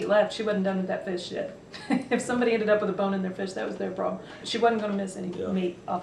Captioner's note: laughs